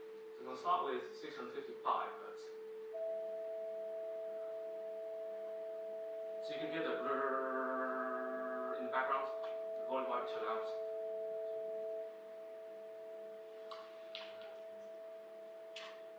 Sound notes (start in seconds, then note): 2.9 he adds sine wave of a higher pitch